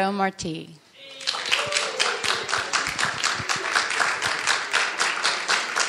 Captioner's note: audience cheering and applauding